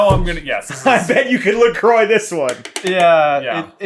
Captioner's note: laughing